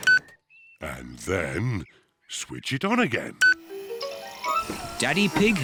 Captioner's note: beeps; beeps